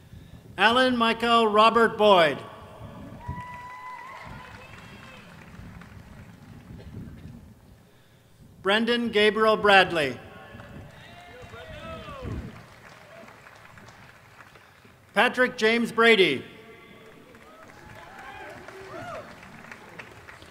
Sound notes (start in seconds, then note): 2.1 applause